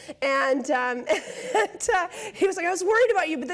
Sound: laughs

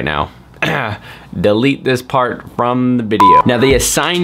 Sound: clears throat

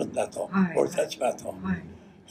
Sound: foreign language

